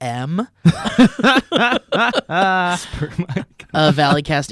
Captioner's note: laughing